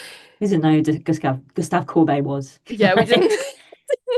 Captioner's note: laughing